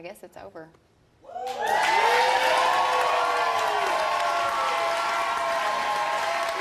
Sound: audience cheers and applauds

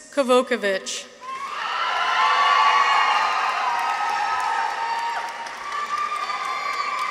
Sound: people cheer; audience applauds

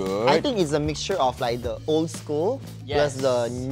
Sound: none

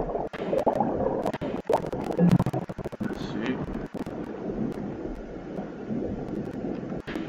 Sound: sound of submarine

